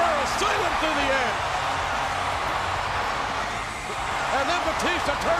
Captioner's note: audience cheers